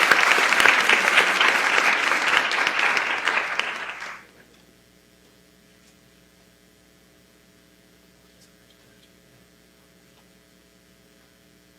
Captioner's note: applause